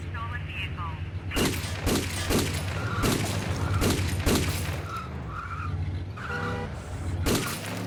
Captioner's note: tires chirping; gunshots boom